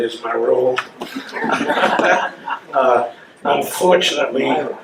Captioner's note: laughing